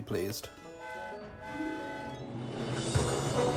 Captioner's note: freddie whistles in distance